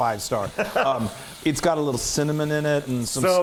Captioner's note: laugh